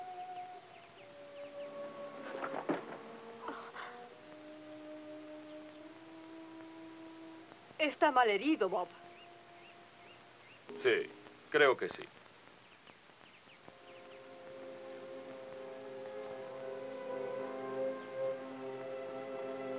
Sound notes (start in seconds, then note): 3.5 Rose gasps; 4.4 solemn music; 16.9 dramatic music